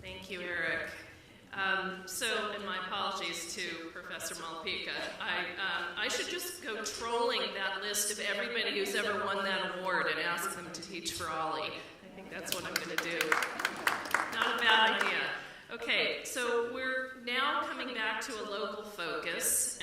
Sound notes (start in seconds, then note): 12.5 applause